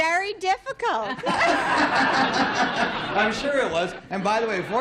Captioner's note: laughter